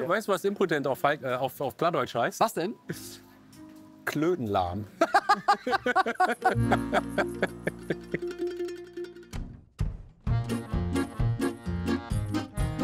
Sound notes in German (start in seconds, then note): 5.0 Sie lachen schelmisch; 10.2 Heitere Musik